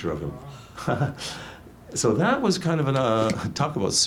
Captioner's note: laughs